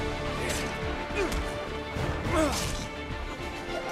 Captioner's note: grunting